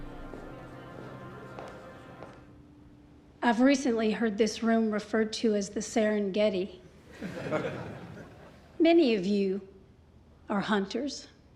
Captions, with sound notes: I've recently heard this room referred to as the Serengeti. [LAUGHTER] Many of you are hunters.